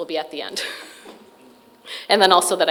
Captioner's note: chuckles